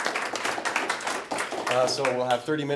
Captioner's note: audience clapping